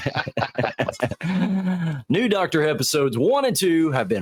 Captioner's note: laughing